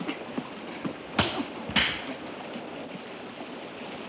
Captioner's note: hand smacks